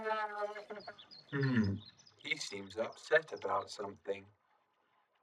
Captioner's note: gloinks boinging, squeaking